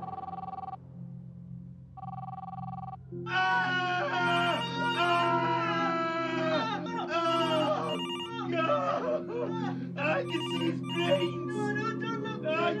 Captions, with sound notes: (yelling) (phone ringing) - God. I can see his brains! - No no, no don't look,